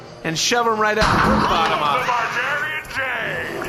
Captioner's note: Pleck’s last few words are drowned out by a crash, a bar patron screams